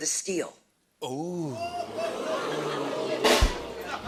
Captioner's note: audience oohs; rimshot